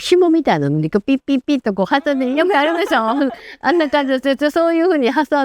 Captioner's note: laughs